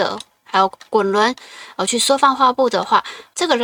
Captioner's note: scroll wheel